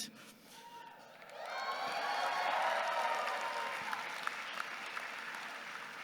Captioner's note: audience cheering and clapping